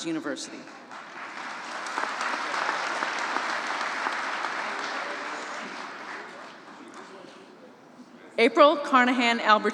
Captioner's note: applause